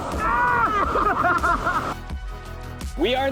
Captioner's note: laughs